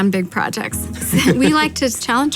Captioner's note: laughs